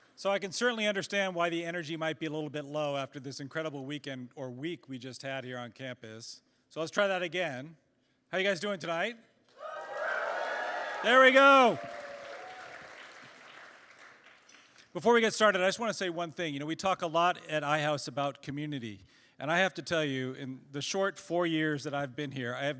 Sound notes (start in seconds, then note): 9.5 cheers